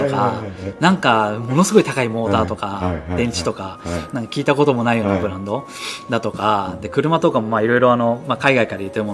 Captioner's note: laughs